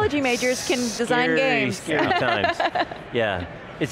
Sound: laughs

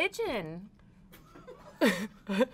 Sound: laughs

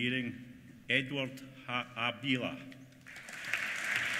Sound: applause

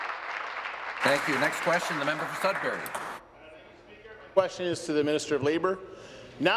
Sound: applause

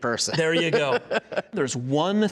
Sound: laughing

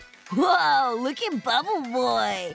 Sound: none

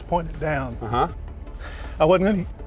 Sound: voiceover

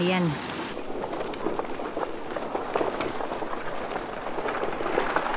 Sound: horses trotting

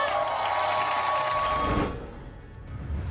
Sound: cheers

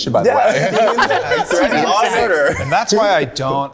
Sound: group laughing

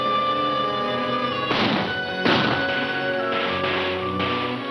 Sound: gunshots

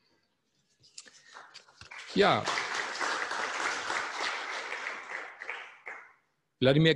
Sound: applause

